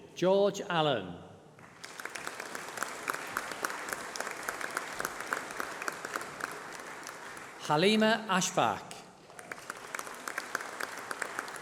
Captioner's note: applause